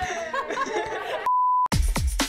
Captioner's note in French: Rires; Bip